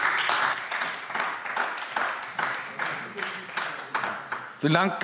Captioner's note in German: Beifall AfD